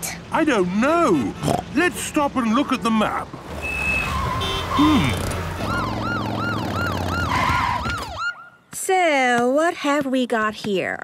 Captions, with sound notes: - I don't know, let's stop and look at the map. Hum... (honking, sirens) - So what have we got here?